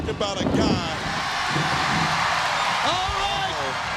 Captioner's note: crowd cheers; thunder booms